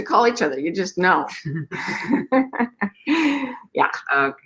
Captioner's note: laughing